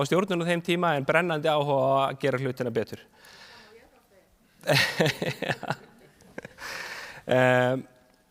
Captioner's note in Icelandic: hlátur